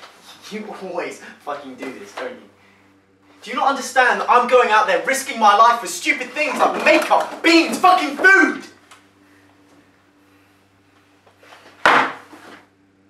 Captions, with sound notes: You always fucking do this don't you Do you not understand that I am going out there for stupid things like make-up, beans, fucking food [Parker slams can down]